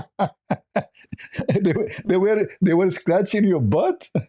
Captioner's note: ketawa